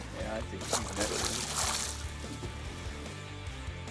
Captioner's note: water splashing; upbeat country music